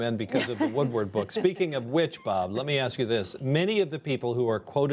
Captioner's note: laughter